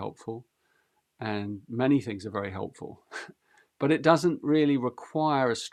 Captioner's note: chuckles